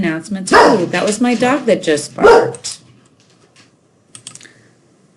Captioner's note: dog barking